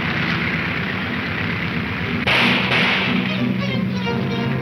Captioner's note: gunshots banging